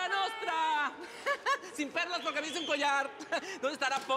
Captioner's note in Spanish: Ríe